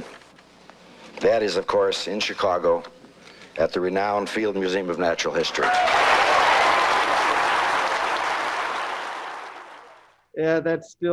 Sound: applause

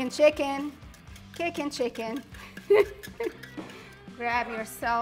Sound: giggles

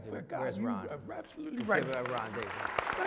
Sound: applause

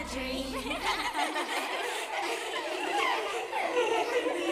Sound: kids laughing

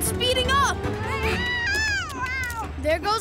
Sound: meowing

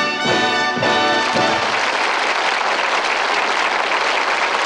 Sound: audience applauding

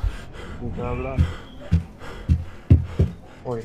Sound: heavy breath sound

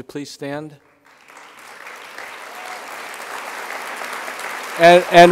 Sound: crowd applause

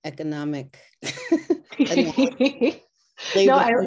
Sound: laughs

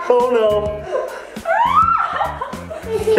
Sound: laughing; screams

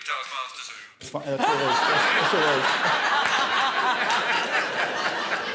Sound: all laughing

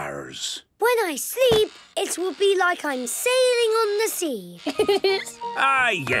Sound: laughing

